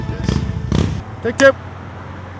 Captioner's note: motorcycle revving